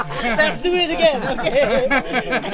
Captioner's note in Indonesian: laugh